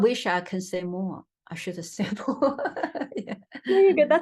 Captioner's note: laughs